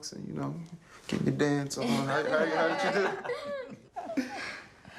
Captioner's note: all laughing